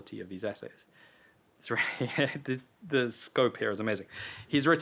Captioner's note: chuckles